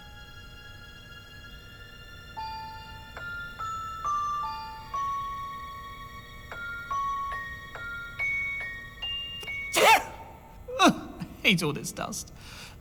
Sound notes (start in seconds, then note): 9.7 flareon sneezes